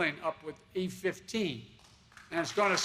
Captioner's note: applause